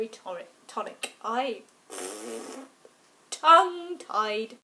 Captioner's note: blows raspberry